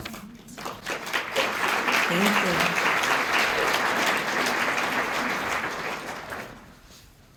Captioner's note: applause